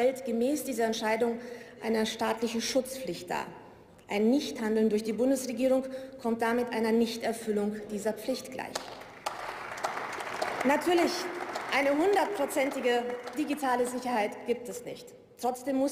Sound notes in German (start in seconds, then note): 8.7 Beifall